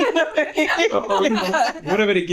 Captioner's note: laughter